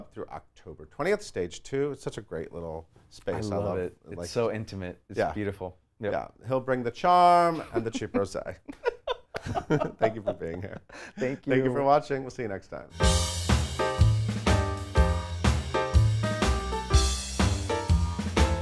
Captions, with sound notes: through October 20th, Stage Two. It's such a great little space. - I love it. It's so intimate, it's beautiful. - He'll bring the charm and the cheap rosé. (laughs) Thank you for being here. - Thank you. - Thank you for watching. We'll see you next time. (upbeat big band music)